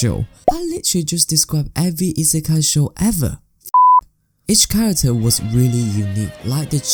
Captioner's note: beap